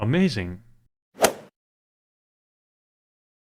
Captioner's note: swoosh